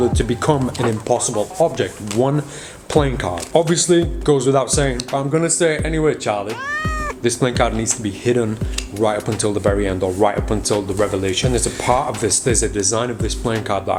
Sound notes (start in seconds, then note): 6.5 cat softly meows